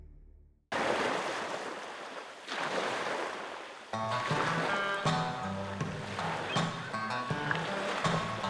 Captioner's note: water lapping